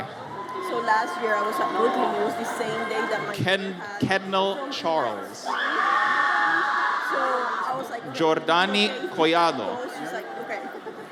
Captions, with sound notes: - So last year I was at Brooklyn News the same day that my... - Kendall Charles. (audience cheers) Jordanni Collado.